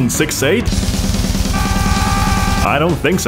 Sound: screaming

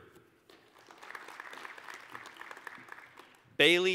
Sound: applause

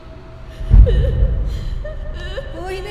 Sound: someone cries

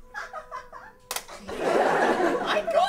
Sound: camera clicks closed

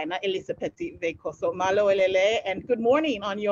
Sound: non-english speech

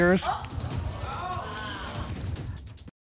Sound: audience exclaiming

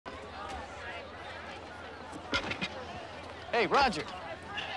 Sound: students chattering

